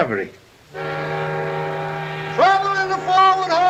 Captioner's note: alarm siren